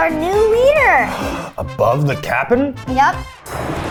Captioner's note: gasps; animated explosion booming